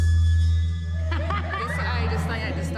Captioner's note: laughs